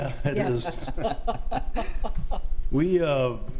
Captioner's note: trustees laugh